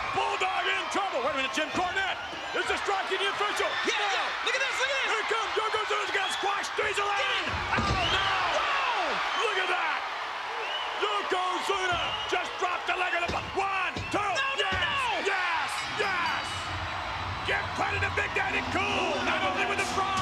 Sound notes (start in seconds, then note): 7.6 Jerry mumbling; 15.6 bell ringing